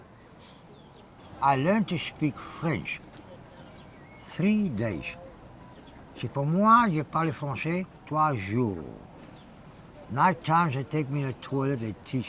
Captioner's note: speaks French